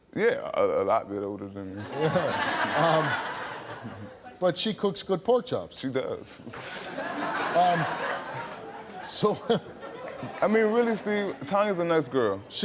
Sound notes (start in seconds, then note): 1.8 audience laughing; 6.6 audience laughing